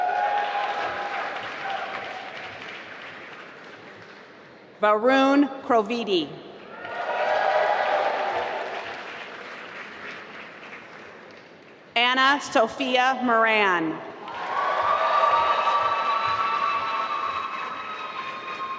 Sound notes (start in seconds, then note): 0.0 applause; 6.7 applause; 14.2 applause